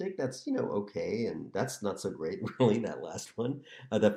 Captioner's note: laughter